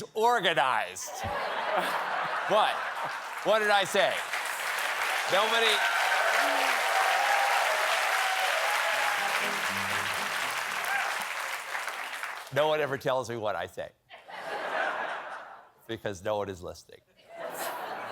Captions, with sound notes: WHAT? WHAT DID I SAY? ( APPLAUSE ) ( APPLAUSE ) BECAUSE NO ONE IS LISTENING." ( LAUGHTER )